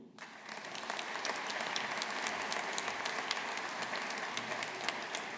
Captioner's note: audience applauding